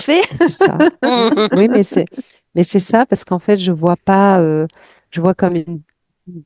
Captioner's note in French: rires